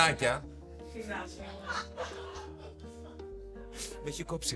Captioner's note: laughter